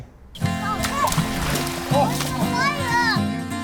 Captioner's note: sound of play